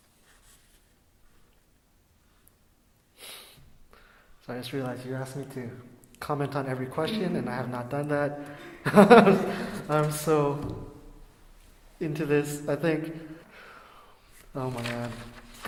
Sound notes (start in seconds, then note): 9.6 laughing